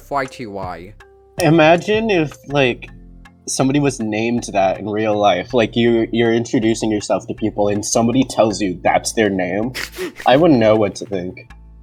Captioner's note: laughs